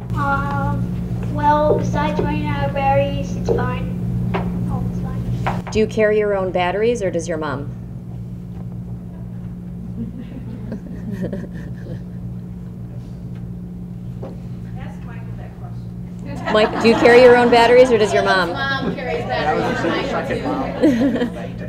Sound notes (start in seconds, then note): 15.6 laughter